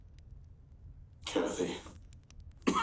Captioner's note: coughs